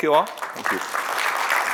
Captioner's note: applause